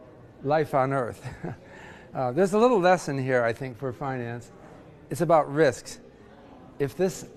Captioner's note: laugh